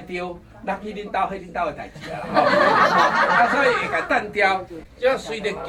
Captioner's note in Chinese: 哈哈